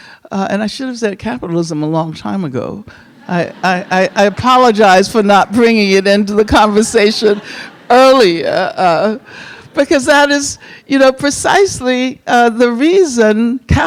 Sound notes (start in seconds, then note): 3.1 audience laughing; 6.4 audience laughing